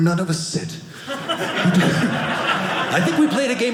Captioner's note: audience laughing